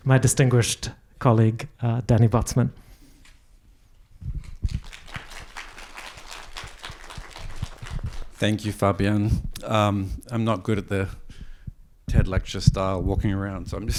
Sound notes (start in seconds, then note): 4.7 attendees applauding